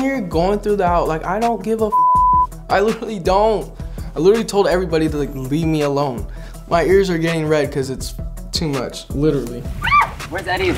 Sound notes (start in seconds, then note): 1.9 beep